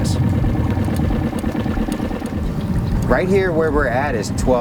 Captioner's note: motor puttering